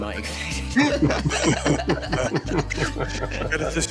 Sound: laughter

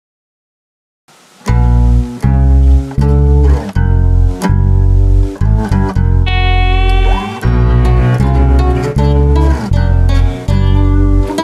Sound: sound of satan

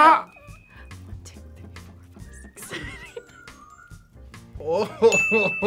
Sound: whispers; laughs; bell rings

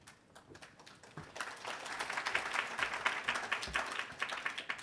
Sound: applause

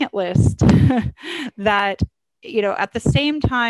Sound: laughs

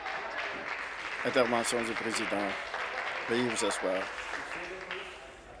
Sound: applause

